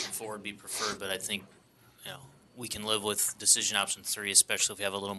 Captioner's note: snorts